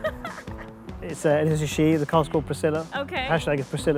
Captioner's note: laughs